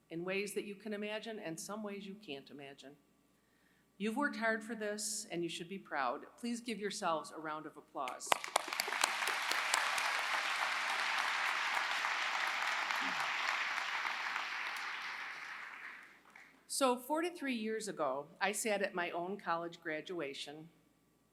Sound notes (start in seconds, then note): 8.2 applause